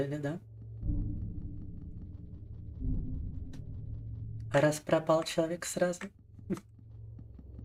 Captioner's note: speaking in Russian